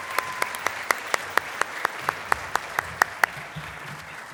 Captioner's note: applause